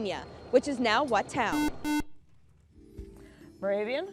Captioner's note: beeping